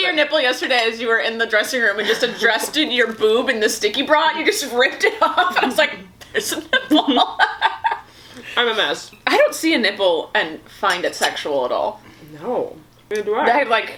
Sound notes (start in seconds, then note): 6.2 laughs